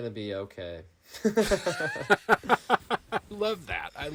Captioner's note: laughing